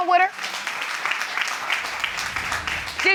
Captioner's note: audience applauding